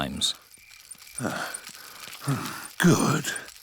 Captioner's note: panting